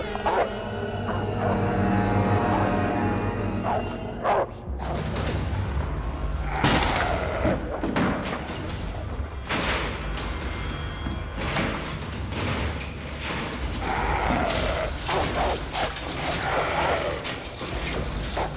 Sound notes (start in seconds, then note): 7.0 torturer grunting; 7.0 wood splintering; 15.8 dog barking